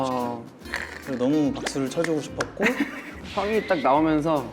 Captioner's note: exactly three claps